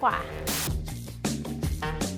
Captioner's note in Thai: เสียงโทรทัศน์